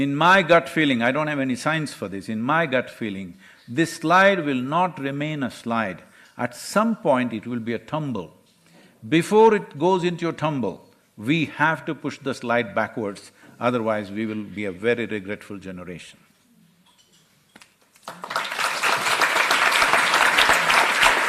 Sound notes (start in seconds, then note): 18.0 applause